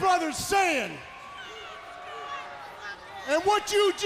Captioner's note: crowd chatter